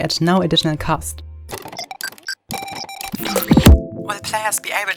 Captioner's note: electronic beeping; electronic Voice